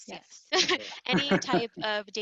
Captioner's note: chuckles